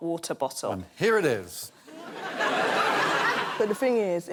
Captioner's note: laughter